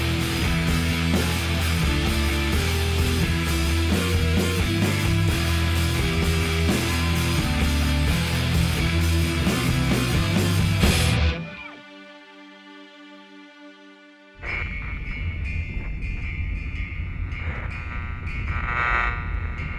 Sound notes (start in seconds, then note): 14.4 radio static; 14.4 slow instrumental music